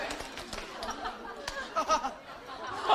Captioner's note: haha